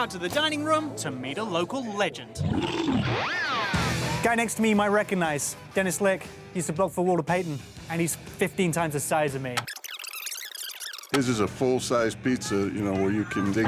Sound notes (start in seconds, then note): 2.4 bear roars; 9.6 fast-forward chirps